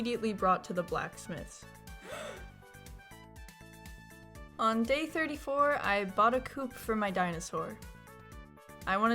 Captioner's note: gasp of excitement